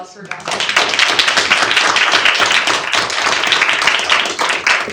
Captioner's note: audience applauding